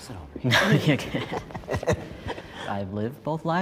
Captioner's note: both laughs